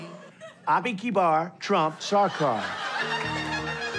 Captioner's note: speaks foreign language